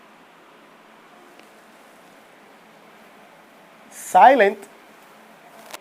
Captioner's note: total silence…